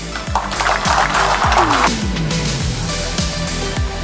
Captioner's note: applause